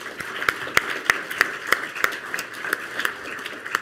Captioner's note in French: Applaudissements